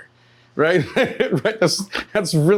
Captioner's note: laughing